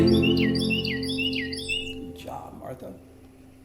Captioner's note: bird chirping